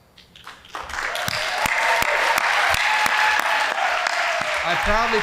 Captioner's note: audience applauding